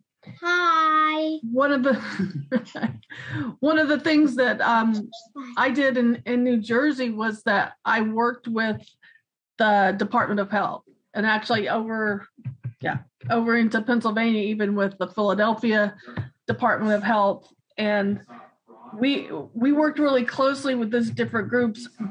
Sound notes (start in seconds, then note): 4.1 laughs